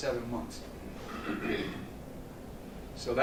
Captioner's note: clears throat